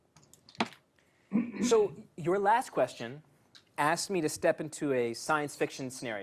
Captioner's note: cough